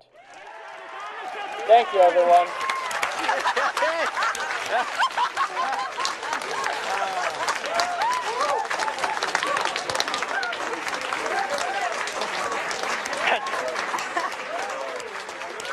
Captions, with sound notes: [cheering erupts] thank you everyone [cheering]